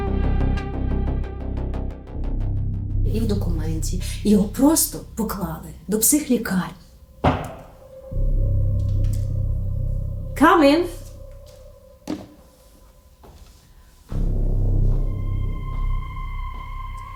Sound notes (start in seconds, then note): 7.2 knocking at the door; 14.0 suspense music begins